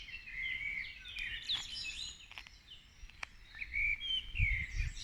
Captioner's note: birdsong